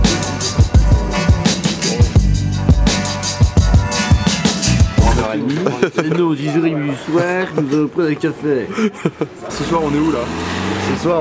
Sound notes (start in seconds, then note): 5.5 belgian accent